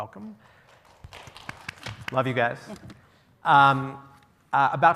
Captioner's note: applause